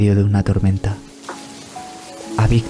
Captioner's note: rain